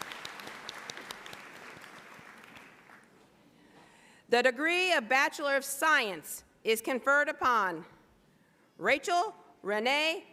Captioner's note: applause